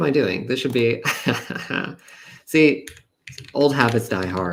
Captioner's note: laughs